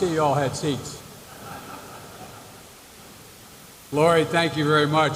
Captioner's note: laughter